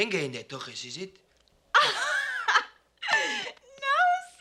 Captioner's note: laughs